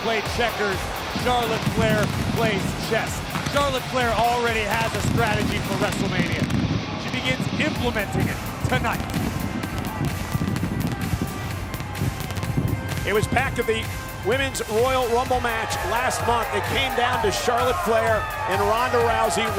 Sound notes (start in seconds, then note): 10.4 fireworks popping; 10.4 upbeat music